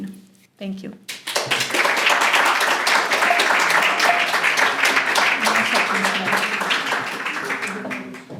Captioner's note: applause